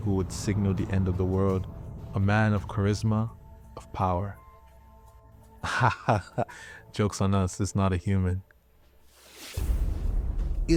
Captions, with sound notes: who would signal the end of the world. A man of charisma, of power. (laughs) Jokes on us. It's not a human. (ominous music)